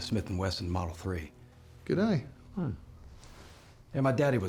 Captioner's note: scottish accent